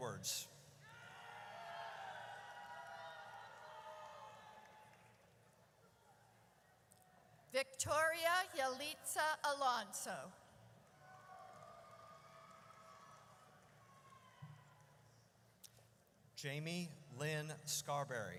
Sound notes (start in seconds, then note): 0.8 audience cheers; 11.0 audience cheers